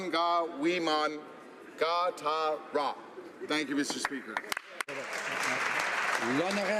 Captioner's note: speaking alternate language